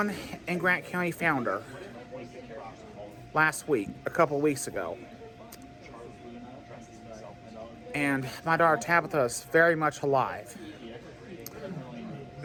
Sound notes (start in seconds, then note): 5.5 Students chattering at Purdue Fort Wayne's Walb Student Union; 10.7 Students chattering at Purdue Fort Wayne's Walb Student Union